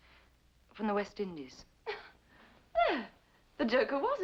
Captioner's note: Blanche laughs